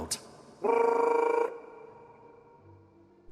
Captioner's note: whistle